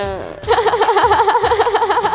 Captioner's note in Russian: смех